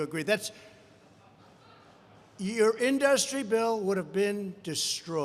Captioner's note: laughter